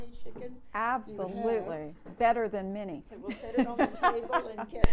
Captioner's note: laughs